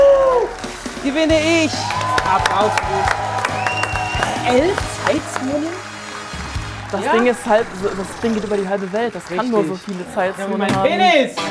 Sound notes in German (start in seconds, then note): 2.3 Jubel, Applaus